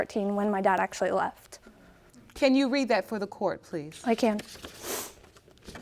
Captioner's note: sniffling